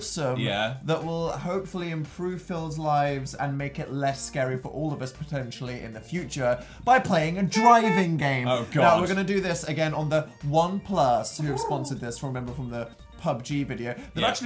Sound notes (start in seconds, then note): 7.5 car beep beep; 11.4 some animal noise idk